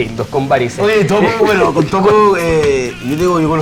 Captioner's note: laugh